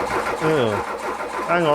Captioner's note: engine turns over